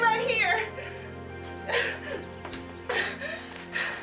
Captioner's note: crying